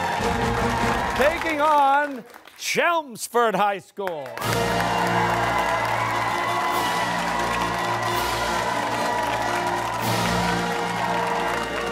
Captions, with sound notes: Taking on Chelmsford High School. (cheers and applause)